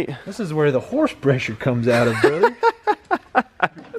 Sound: laughs

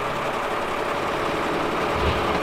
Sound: engine starts up

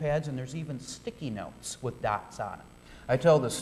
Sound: audience chuckling

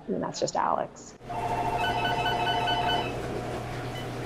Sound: phone ringing

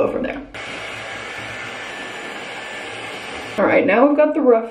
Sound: blow dryer whines

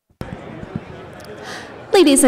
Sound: audience chattering

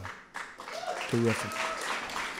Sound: applause

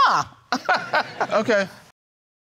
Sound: chuckles

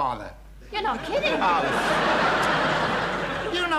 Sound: audience laughing

